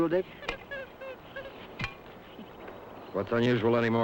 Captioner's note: Joe chattering